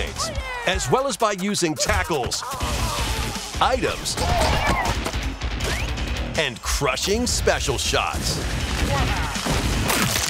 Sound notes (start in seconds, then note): 2.4 Donkey Kong screams